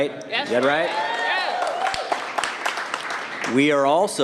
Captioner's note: cheers and applause